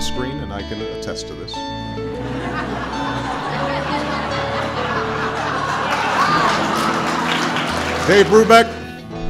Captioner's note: laughter and applause